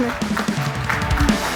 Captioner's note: participants applauding; upbeat music